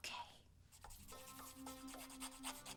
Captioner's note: whispering